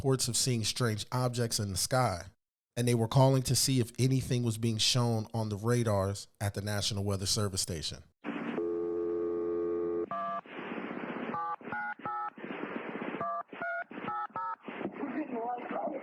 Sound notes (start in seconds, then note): 8.9 beeping; 8.9 phone disconnect signal; 15.3 phone rings